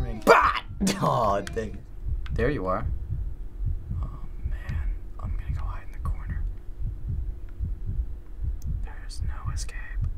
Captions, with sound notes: (yells) Dang. There you are. (whispers) Oh man. I'm gonna go hide in the corner. (heart thumps) There is no escape.